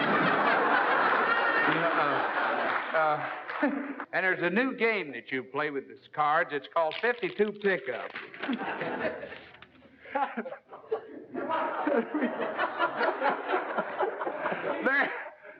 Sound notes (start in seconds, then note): 0.0 laughter; 10.0 laugh